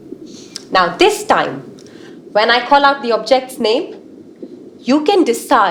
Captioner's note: underwater sounds